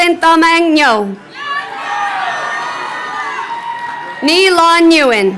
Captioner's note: crowd cheering